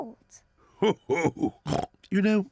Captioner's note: laughs and oinks